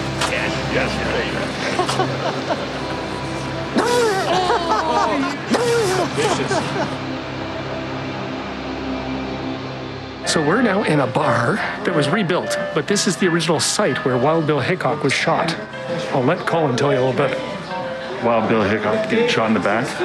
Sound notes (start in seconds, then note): 1.6 laughter